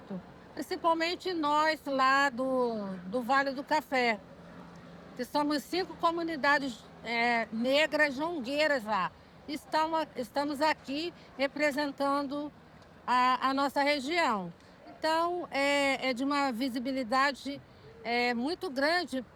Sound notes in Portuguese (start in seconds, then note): none